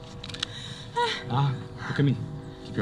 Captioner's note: gasp